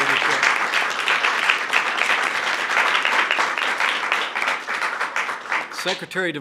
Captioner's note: applause